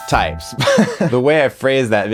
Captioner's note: laughs